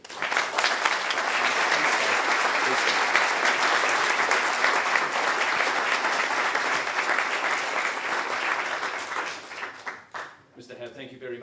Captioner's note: audience Applause